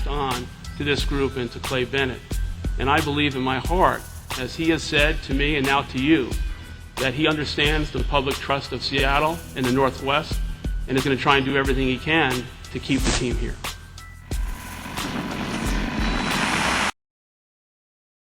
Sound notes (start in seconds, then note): 14.3 static, distortion